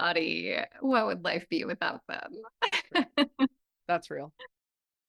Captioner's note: laughs